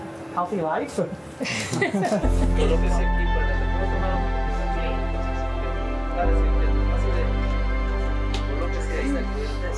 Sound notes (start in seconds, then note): 1.4 all laughing